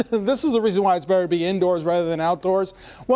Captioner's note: laughter